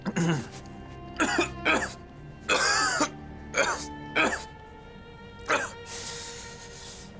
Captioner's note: coughing